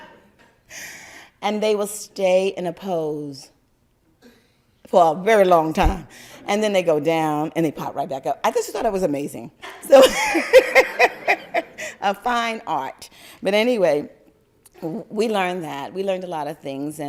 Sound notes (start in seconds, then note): 9.9 laugther